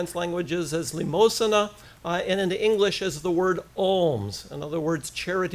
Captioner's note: foreign language